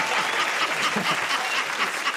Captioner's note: laughing